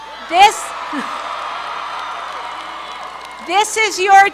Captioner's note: cheering, applause